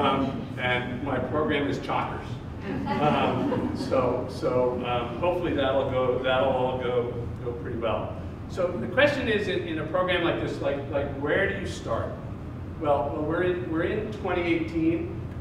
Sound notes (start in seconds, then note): 2.6 audience laughs